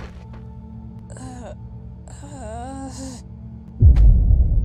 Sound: Angel Toon groans in pain

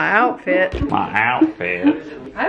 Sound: mimics accent

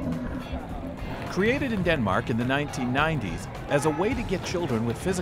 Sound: voiceover

